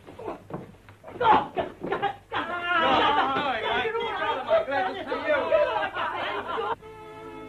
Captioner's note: excited greetings